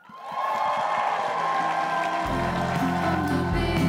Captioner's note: crowd cheering and applauding